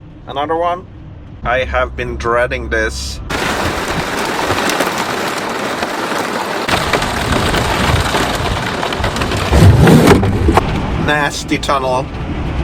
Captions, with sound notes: Another one? I have been dreading this. (Heavy rain sounds) Nasty tunnel.